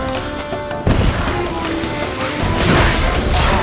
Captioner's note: explosion; Quen shield crackles